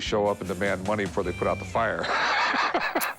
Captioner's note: laughs